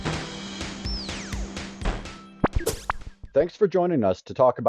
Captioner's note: electronic sound effects